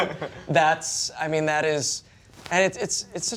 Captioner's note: laughter